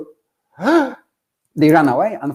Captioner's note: gasping